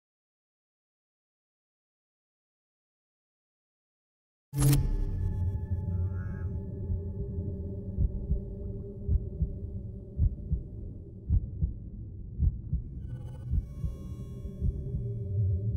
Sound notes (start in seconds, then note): 7.6 heartbeat